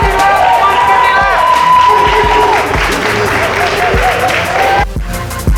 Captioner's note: crowd Cheering